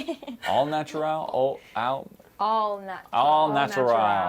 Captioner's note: stuttering